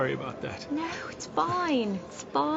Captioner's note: soft piano music; laughs